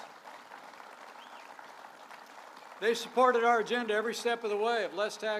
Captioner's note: applause